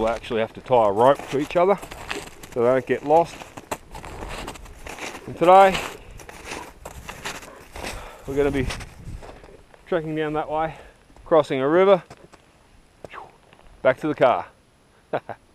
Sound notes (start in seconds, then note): 6.0 footsteps crunching; 15.1 laughs